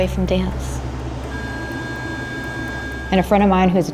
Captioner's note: machine tone